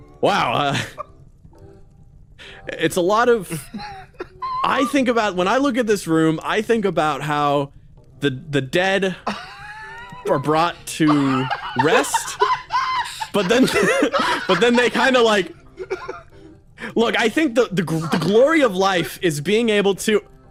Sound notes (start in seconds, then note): 12.6 laugh